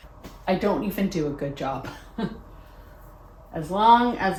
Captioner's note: chuckles